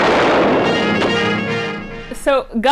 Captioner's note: gunshot